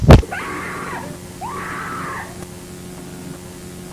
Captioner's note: screaming